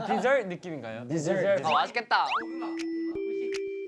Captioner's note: excited